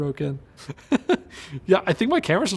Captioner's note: laughs